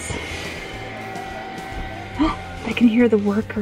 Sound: people chatting

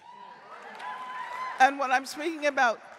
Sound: audience cheering

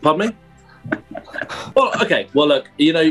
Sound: chuckling

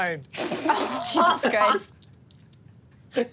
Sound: laughs

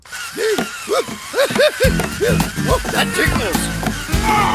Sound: gasping

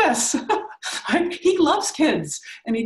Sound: laughing

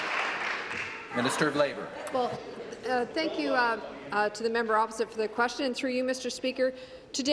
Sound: applause

